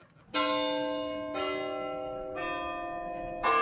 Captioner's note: bell chiming